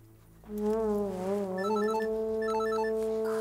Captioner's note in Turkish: Telefon zili sesi